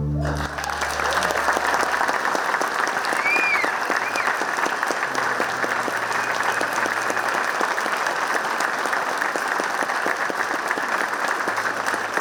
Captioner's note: clapping